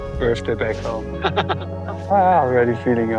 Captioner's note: laughs